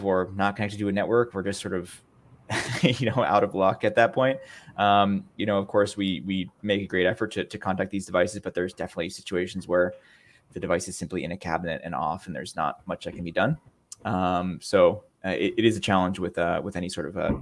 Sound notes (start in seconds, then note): 2.5 chuckles